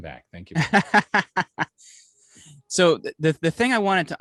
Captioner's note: laughing